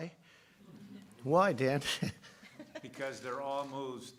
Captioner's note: laughs